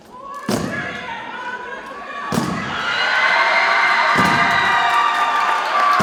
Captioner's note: audience cheers and applauds